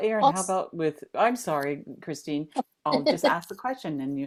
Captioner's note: laughter